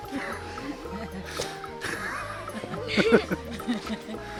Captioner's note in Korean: 웃음